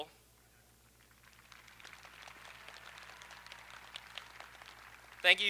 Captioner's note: audience applauding